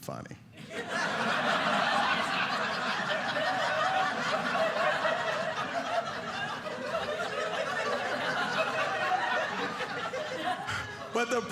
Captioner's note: audience laughing